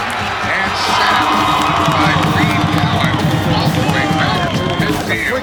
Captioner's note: cheering